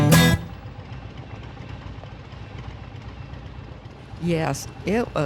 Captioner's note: engine rumbling